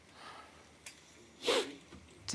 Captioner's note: sniffling